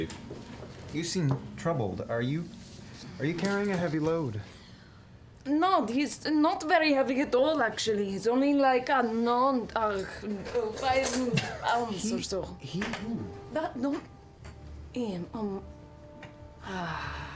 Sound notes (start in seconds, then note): 13.5 sighs